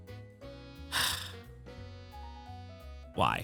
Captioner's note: sighs